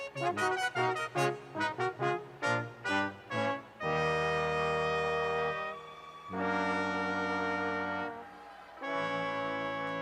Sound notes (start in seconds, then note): 5.5 audience cheers